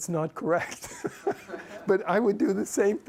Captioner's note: laughs